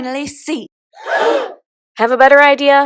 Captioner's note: gasp